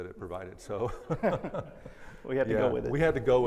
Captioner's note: all laugh